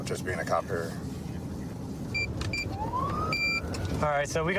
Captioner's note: buttons beeping